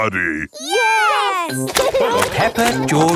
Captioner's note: laughing